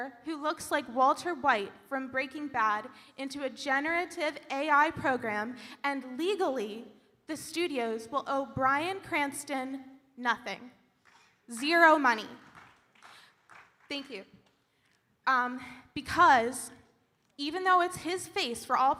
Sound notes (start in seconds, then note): 12.4 audience applauding